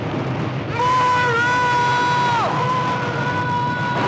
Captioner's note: echoing